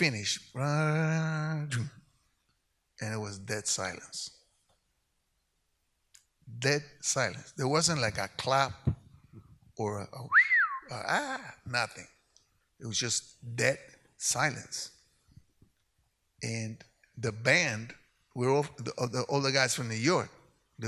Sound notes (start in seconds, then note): 0.2 harmonizes; 10.2 whistles